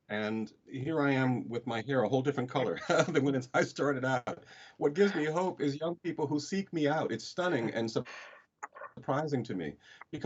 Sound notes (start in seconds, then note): 3.0 laughs